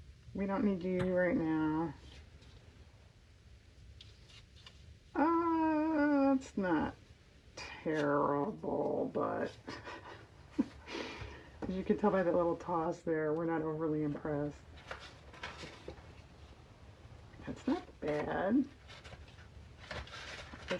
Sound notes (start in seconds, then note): 9.6 laughs